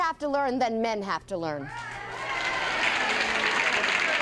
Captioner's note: applause and cheering